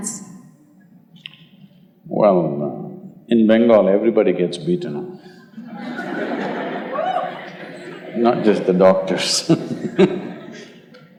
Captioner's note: laughter; laughs